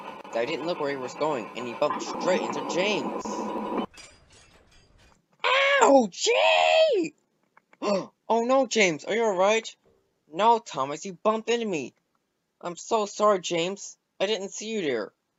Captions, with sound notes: That didn't look where he was going, and he bumped straight into James. OUCHIE!!! *GASP* Oh No, James, are you all right? No Thomas, you bump into me! I'm so sorry James. I didn't see you here.